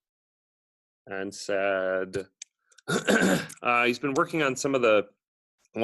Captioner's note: clears throat